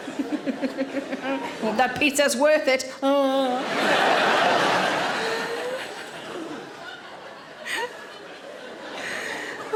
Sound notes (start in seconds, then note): 0.1 Sarah chuckling; 3.6 audience laughing